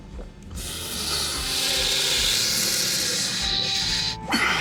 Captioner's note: man breathing in loudly